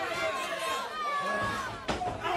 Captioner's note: crowd chatter